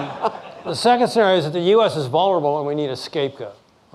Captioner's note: laughing